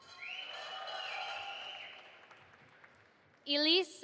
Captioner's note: audience applauding